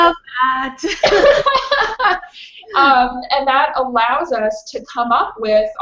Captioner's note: laughs